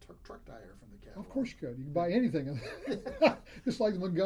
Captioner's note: laughs